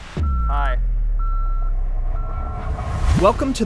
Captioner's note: control beeping